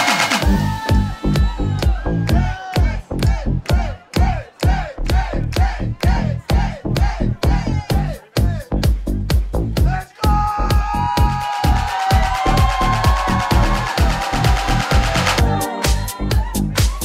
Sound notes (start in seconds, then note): 0.0 crowd cheers; 2.5 crowd; 12.0 crowd cheers